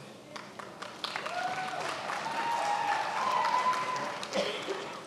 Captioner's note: attendees applauding